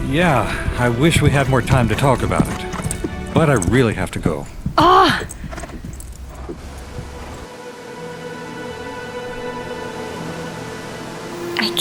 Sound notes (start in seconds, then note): 4.8 Mila groans; 5.9 brooding orchestral music